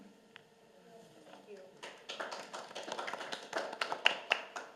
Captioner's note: applause